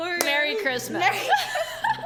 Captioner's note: laughs